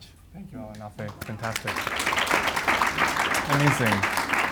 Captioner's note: audience applauds